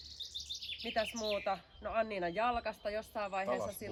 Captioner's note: animals